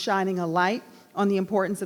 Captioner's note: none